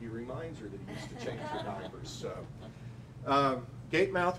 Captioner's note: laughing